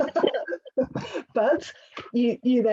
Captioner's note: both chuckle